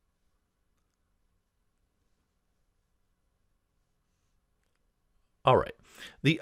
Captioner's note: pause